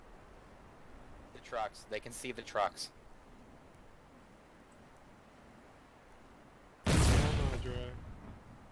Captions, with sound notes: Trucks, they can see the trucks. *Distant boom*